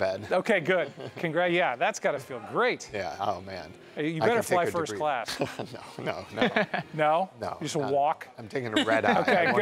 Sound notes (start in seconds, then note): 5.2 laughs